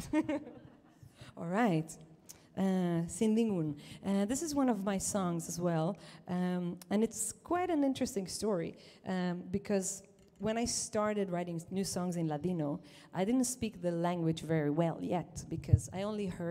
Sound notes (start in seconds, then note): 0.0 chuckles; 3.1 says song title in Ladino